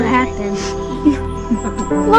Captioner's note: woman cries